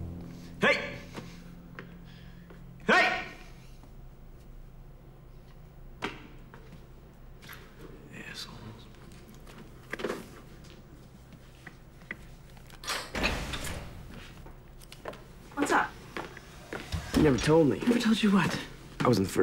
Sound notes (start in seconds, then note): 12.8 door opens